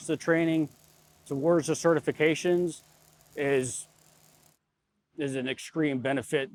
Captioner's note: sparks crackling